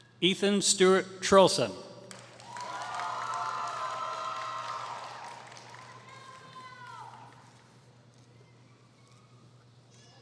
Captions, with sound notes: Ethan Stuart Trulson [Applause]